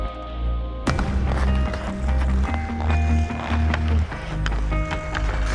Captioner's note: skates clacking on ice